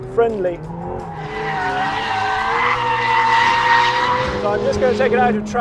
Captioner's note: tires screeching